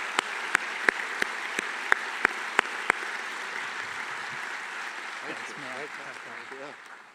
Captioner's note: applause